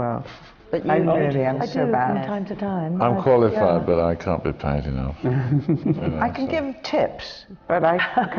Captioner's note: laughter